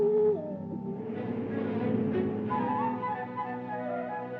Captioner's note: owl hooting; whimsical music; car rumbles; whimsical music